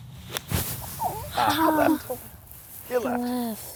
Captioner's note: grunts